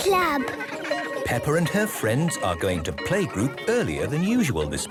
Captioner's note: children giggling